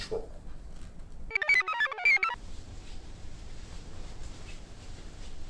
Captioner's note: computer chirps